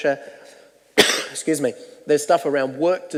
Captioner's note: coughs